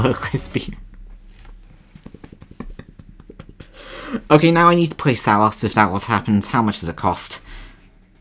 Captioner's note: laughs